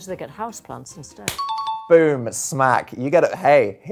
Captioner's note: message beeps